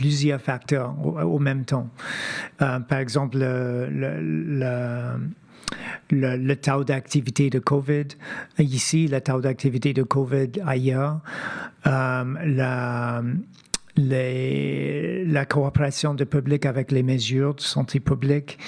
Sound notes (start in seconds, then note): 5.1 speaking French